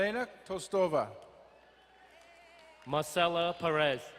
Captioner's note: crowd cheering and applauding